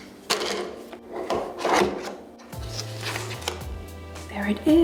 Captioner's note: knife crunching through box